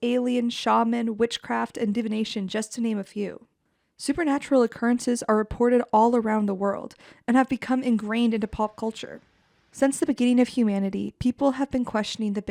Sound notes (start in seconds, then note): none